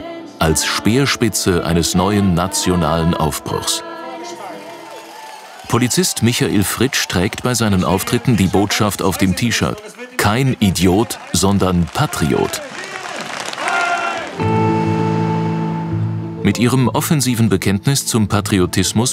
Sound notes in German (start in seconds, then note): 12.7 Jubel; 14.4 Angespannte Musik